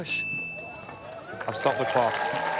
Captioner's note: ding!